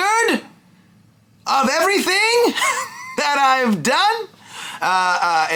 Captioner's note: laughs